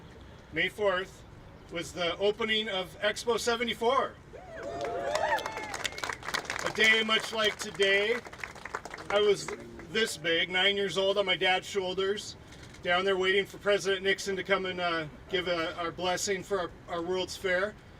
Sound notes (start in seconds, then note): 4.6 applauding